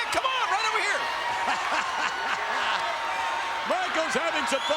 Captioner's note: laugh